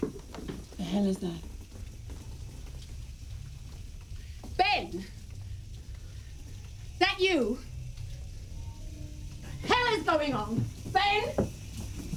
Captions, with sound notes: What the hell is that? Ben! - Is that you?! - ( water running ) What the hell is going on?! Ben?